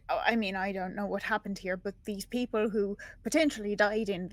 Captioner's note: none